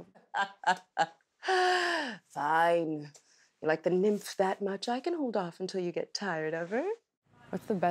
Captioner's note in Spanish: se ríe